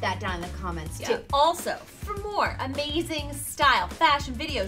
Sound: screen whooshes

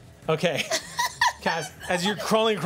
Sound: laughing

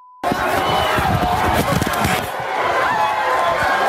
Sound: shouting

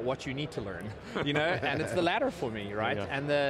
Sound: laughter

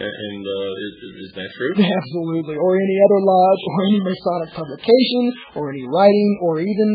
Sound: laughs

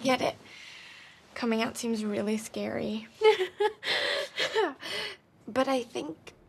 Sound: laugh-cries

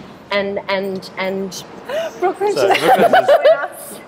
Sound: laughing

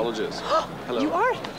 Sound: gasping

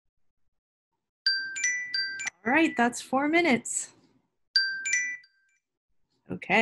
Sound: alarm Rings

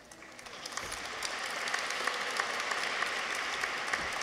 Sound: audience applauds

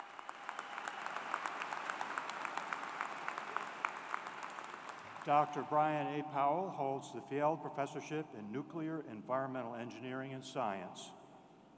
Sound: applause

